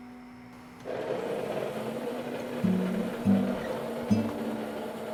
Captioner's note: whirring